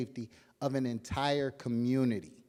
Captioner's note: none